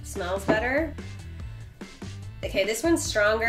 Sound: taps table

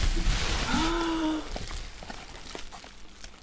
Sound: gasps Of Joy

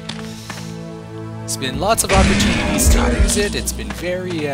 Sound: gunshot

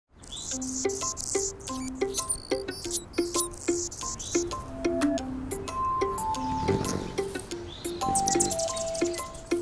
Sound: hummingbird chirping

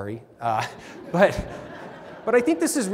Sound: laughter

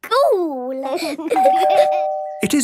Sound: door bell ringing

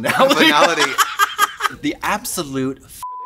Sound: laughs

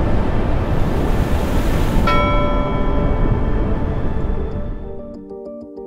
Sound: bell rings and sound of rushing water

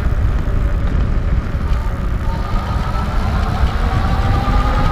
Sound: tire fast-spinning noise

